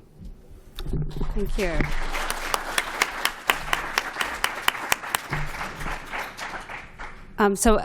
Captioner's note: applause